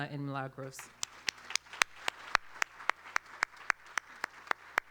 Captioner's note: applause